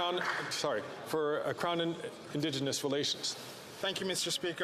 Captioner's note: some Applause